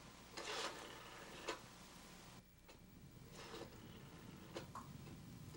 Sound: phone dial clicks

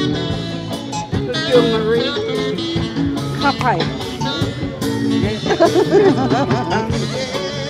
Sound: laughter

